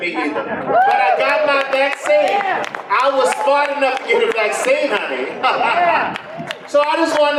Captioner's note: laughs